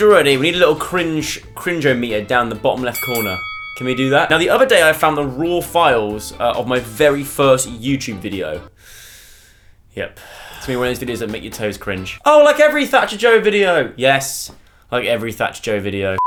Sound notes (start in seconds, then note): 8.7 inhales